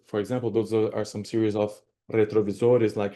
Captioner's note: spanish